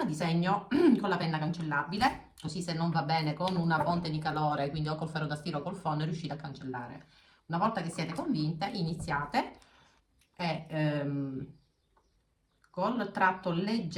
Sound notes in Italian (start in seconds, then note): 0.7 schiarire la voce